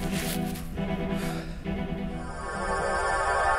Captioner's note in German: Schnaufen, flirrende Geräusche